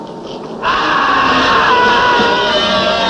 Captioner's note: screams